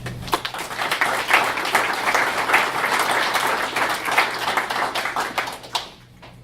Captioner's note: audience applauds